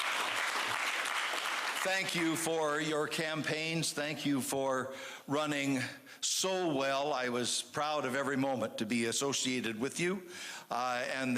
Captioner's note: applause